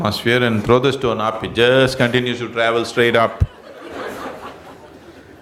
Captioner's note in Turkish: gülüşler